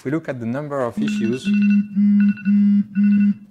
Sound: timer rings

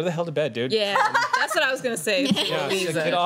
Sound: laughter

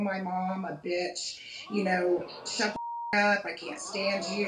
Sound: beeping

